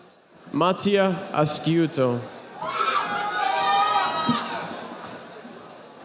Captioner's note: audience applauding